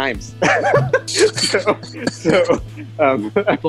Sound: laughing

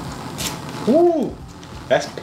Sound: liquid pours

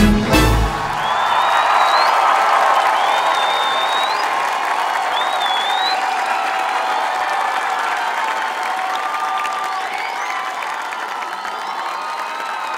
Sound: Gritos y aplausos

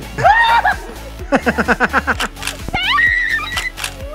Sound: person screaming

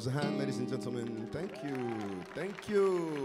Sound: crowd applauds

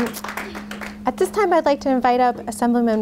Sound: group applauds

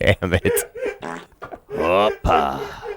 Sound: fart

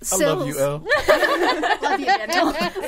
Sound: all laughing

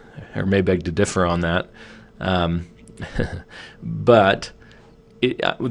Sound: chuckles

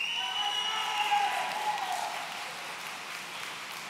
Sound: audience cheering

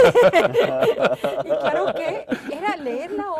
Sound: risas

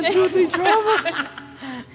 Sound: laughing

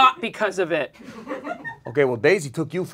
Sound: audience giggles

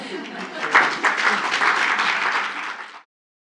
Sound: audience applause

